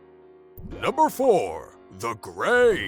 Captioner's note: deep Voiceover